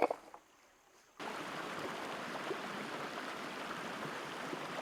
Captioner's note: water babbling